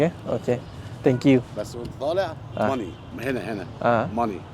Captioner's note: speaking Arabic